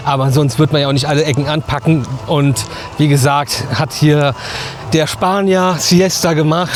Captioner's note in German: schnauben